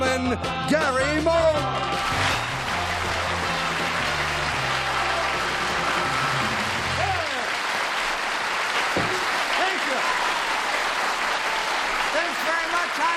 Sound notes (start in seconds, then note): 3.2 applause